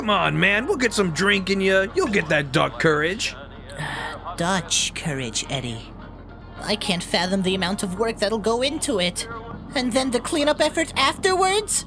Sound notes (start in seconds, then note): 3.8 sigh